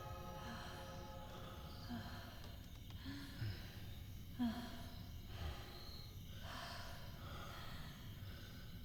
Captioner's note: heavy breathing